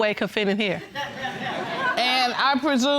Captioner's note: audience laughing